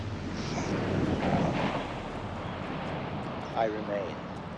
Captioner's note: waves crashing